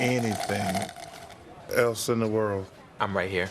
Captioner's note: slurping